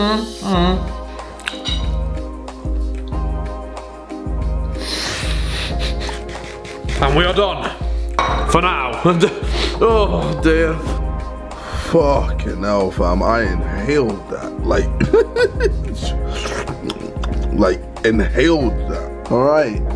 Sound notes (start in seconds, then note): 0.1 inhales; 11.4 laughing